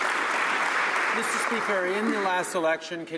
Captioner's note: some Applause